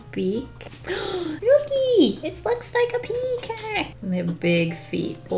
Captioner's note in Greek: Κοφτή ανάσα